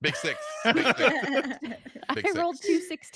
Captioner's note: laughing